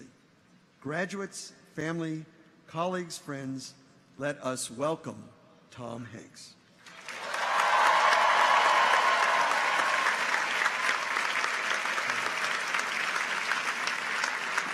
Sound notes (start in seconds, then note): 6.8 audience applauds; 7.0 audience cheers